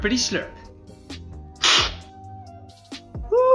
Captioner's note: slurping